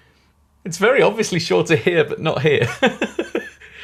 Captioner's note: laughing